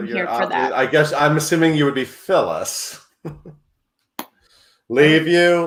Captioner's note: chuckles